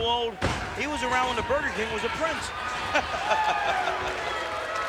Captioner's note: laughs